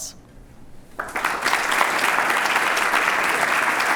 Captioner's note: applauding